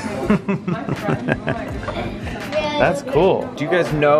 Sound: laughs

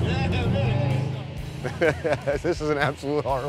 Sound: laughter

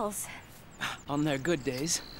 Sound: scoff

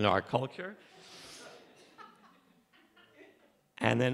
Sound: laughter from audience

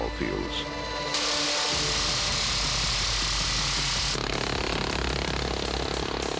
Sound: machine gun firing

